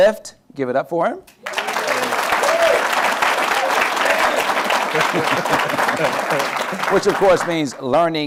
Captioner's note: applause